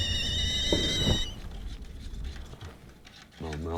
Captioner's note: stirring coffee